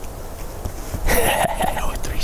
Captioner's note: laughing